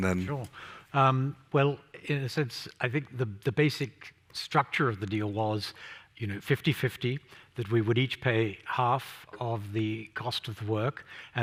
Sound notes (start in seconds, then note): none